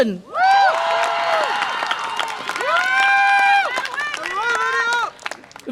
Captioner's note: audience applause and cheer